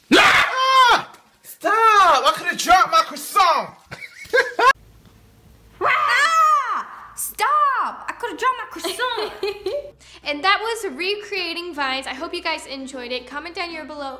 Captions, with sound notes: [Scream] Ah! Stop! I could have dropped my croissant! [Laughter] [Scream] Ah! Stop! I could have dropped my croissant! [Laughter] And that was recreating Vines. I hope you guys enjoyed it. Comment down you're below-